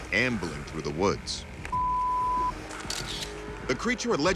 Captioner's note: camera shutter clicks